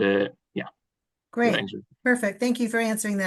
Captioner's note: speaking faintly